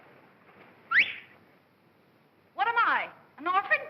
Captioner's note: whistles